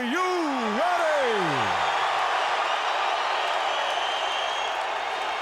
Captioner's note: crowd cheering